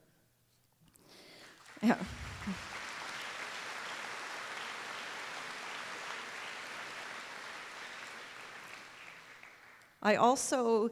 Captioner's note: applause